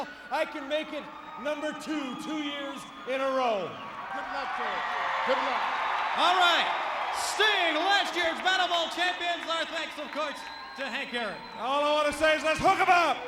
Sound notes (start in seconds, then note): 5.1 audience cheers